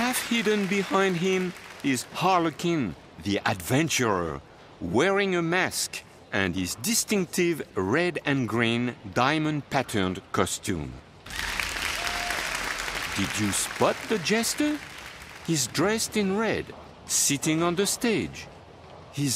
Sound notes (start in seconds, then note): 11.2 applause